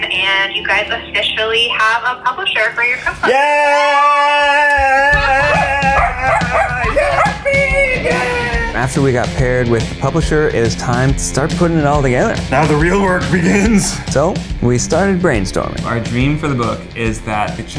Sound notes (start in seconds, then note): 5.1 Bean barking